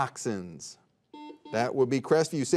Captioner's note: buzzer beeping